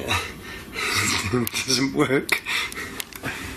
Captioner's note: laughing